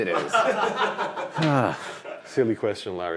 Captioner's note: men laughing